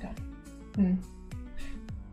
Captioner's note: hums